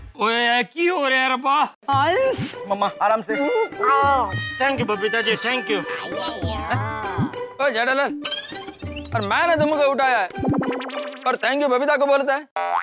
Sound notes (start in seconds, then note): 3.8 yelps